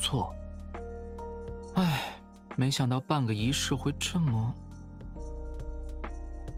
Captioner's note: sigh